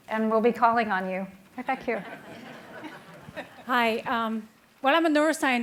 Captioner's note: laughing